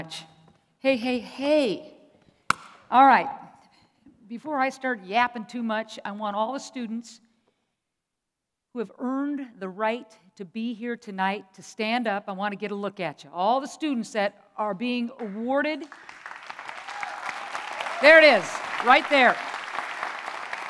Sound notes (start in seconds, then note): 2.0 claps; 15.8 applause and light cheers; 19.6 applause continues